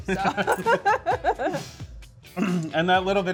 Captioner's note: laughs